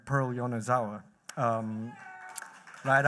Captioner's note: cheers